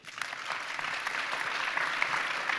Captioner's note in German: Applaus